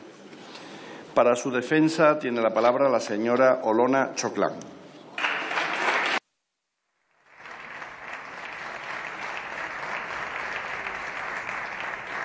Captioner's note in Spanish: Aplausos